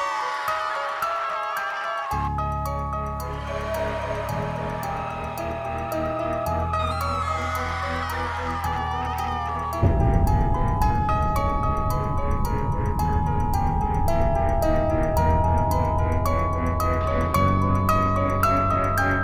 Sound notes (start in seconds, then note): 0.1 woman screaming; 3.2 demonic groaning echoes; 7.7 woman screaming